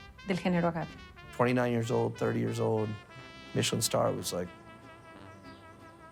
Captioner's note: in English